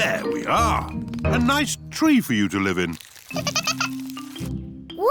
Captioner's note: giggling